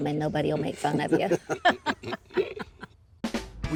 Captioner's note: laughs